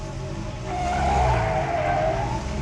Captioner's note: tires squealing